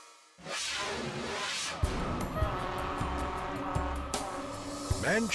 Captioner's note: suspenseful music; fire truck hooter hooting